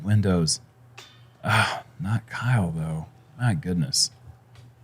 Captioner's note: sighs